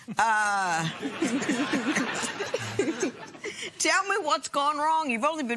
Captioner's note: laughter